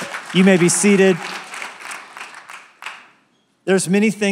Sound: applause

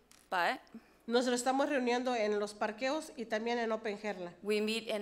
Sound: speaks foreign language

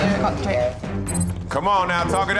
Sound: digital beeping

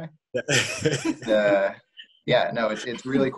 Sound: laughing

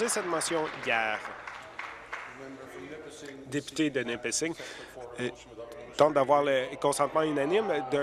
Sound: applause

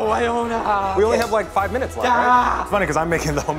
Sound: yelling

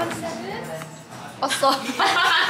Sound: click

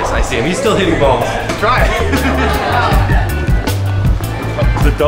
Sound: laughs

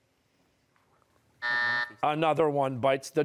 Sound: buzzer

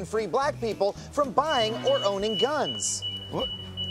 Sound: alarm sounding

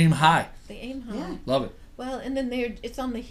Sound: voiceover

